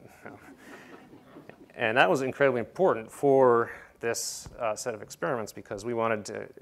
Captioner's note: laugh